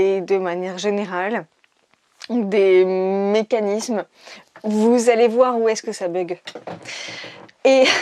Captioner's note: chair goes squaak; chair goes squeek